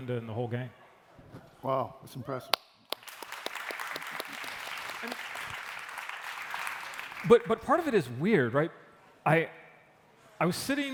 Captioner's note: applause